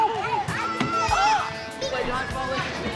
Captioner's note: ball thuds against his head